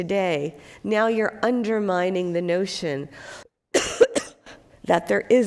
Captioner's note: coughs